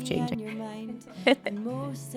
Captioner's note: laughs